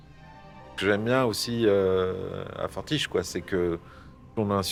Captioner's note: in french